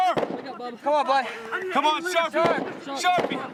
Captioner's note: yelling